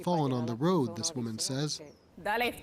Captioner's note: speaking Spanish